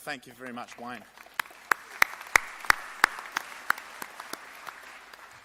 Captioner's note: audience applauds